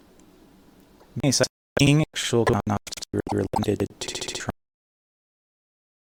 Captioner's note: glitchy, in background